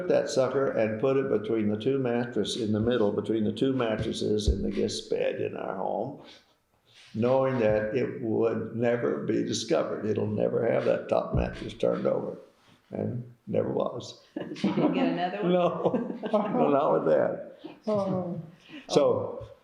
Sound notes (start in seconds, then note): 14.3 laughter